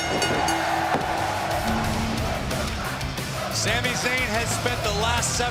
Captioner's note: crowd cheering; bell ringing; crowd cheering